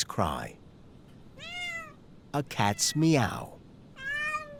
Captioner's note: recording of cat meowing playing